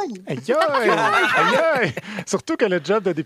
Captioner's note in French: rires